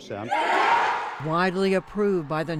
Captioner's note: cheering